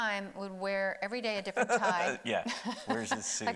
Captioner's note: laughing